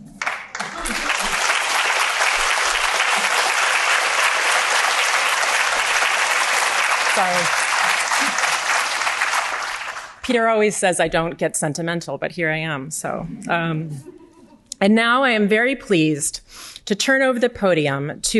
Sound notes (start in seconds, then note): 0.5 audience applauding; 13.6 audience laughing